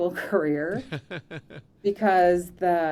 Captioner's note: laughing